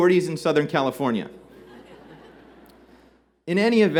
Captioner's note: laughter